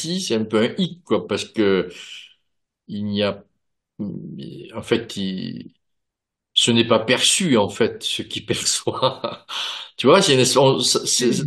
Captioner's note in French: rires